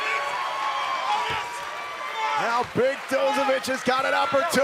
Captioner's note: crowd cheering